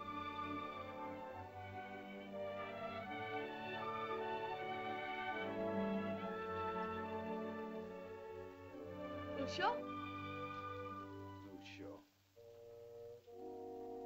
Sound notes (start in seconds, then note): 0.0 sentimental music; 9.4 Loana says "Father?" in caveman language; 12.4 ominous melancholy music